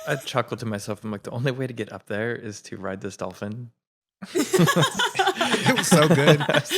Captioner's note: laugh